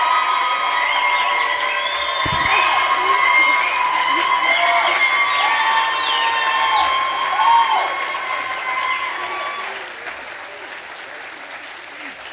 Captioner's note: cheers